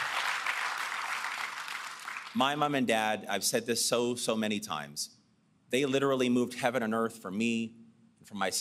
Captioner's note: applause